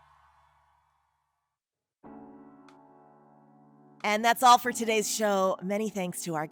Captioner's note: cheering